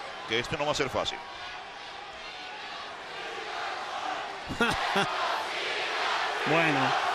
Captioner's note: laugh